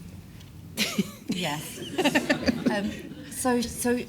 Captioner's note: all laugh